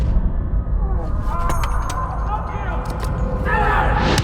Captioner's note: echoing shouts